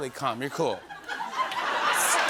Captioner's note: laughter